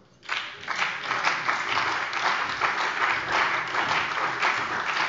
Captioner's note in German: Beifall bei der CDU und dem BÜNDNIS 90/DIE GRÜNEN